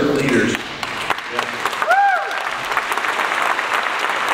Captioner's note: audience applauds